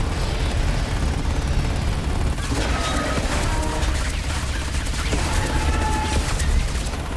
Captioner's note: dramatic music; machine gun fire